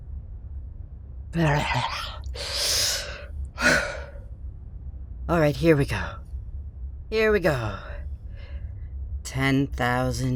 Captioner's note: weird voice warm-up sounds